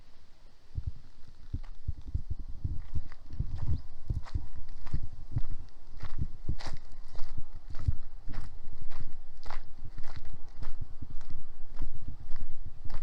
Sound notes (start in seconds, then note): 6.5 footsteps